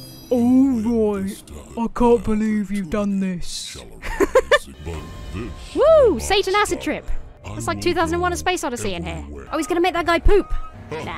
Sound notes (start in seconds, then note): 4.0 laughs